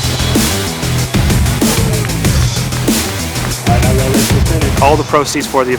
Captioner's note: upbeat music continues; onlookers clapping